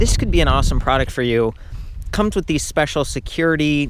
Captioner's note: none